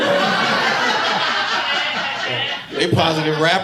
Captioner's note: audience laughing